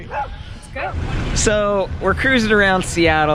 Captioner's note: motors rumble